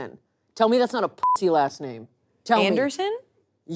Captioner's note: beep